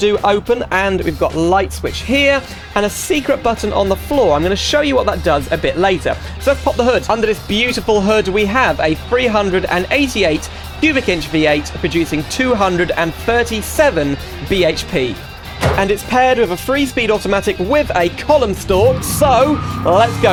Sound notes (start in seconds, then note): 15.5 hood slams